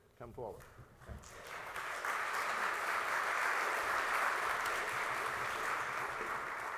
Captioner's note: applause